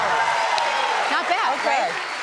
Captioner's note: audience cheers